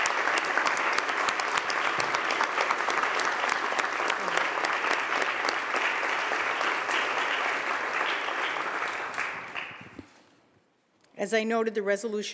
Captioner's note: applause